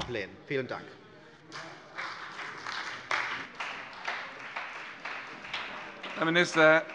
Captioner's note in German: Beifall bei der CDU und dem BÜNDNIS 90/DIE GRÜNEN